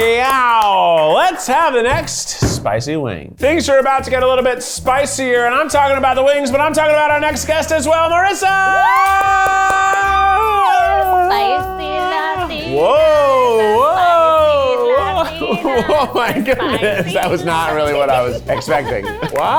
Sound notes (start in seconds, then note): 13.4 laughs